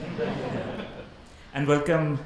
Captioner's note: audience laughs